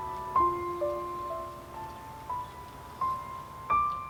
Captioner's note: distant bird chirping